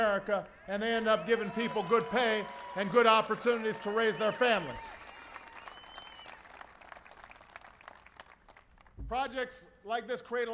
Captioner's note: applause